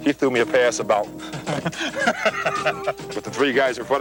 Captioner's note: Seaver laughs